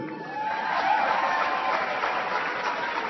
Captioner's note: applause